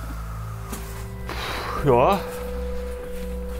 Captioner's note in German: ausatmend